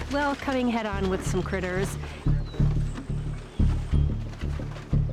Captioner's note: mouse squeaking